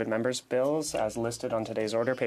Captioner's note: speaking French